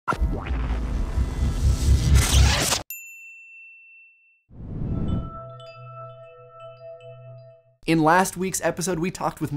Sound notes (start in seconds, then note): 4.6 whoosh